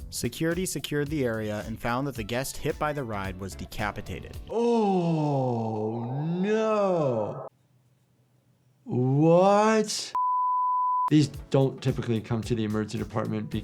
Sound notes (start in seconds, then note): 10.2 broadcast signal beeps